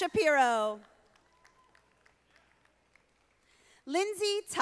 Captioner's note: audience applauding